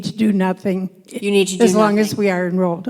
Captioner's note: voiceover